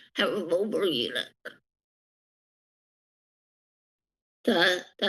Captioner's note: pause